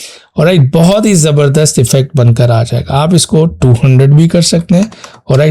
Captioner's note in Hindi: नाक से की जाने वाली आवाज़